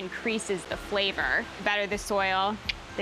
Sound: clicks tongue

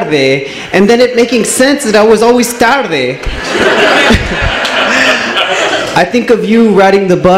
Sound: laughs

